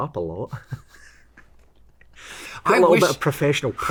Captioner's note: both laugh